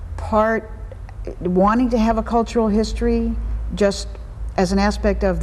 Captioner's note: none